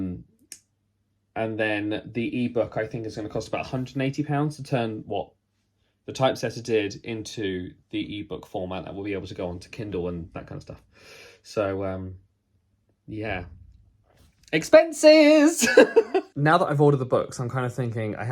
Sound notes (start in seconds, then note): 15.6 laughs